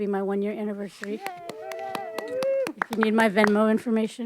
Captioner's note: audience cheering and applauding